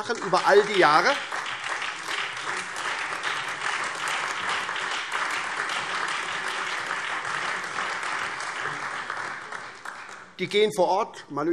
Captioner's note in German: Beifall SPD, Freie Demokraten, DIE LINKE und vereinzelt AfD